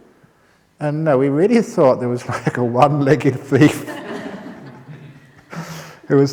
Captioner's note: laughter